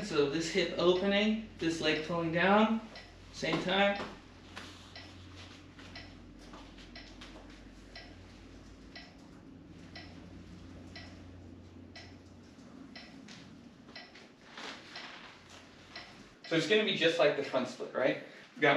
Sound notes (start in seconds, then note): 4.8 metronome ticking